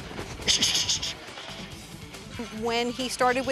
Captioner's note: grunts; hisses